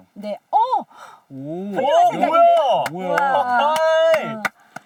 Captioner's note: clap